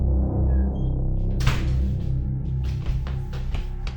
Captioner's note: door slamming